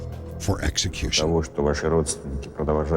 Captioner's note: speaking russian